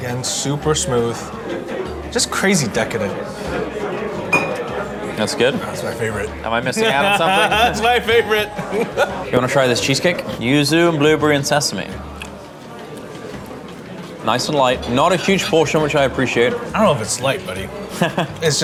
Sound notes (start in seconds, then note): 3.6 patrons chattering; 6.5 laughing